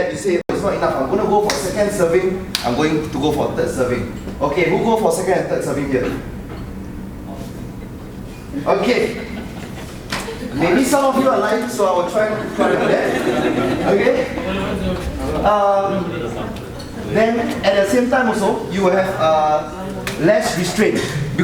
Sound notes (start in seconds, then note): 13.5 audience laughing; 14.6 audience chattering faintly